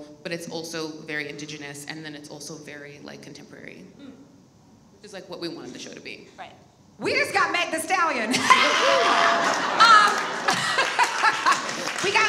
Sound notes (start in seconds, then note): 8.3 laughs; 8.5 audience applauds